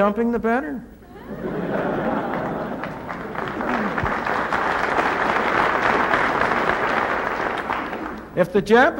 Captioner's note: laughter and applause